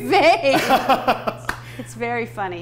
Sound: laughing

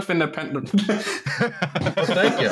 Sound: laughter

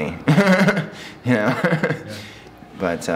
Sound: laughing

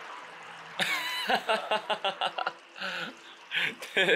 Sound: bursting into laughter

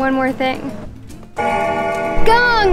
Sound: bell ringing

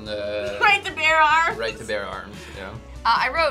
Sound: laughs

